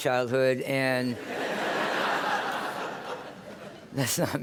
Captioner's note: laughter